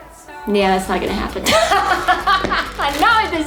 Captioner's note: laughs